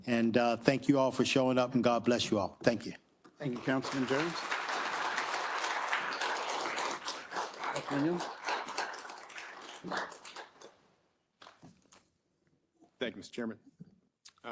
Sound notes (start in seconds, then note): 3.4 attendees applauding